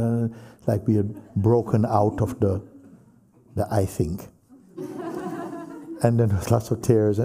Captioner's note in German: Lachen